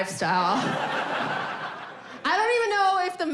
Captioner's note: audience laughing